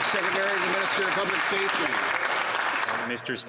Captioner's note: applause